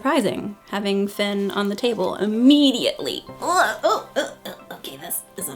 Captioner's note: groaning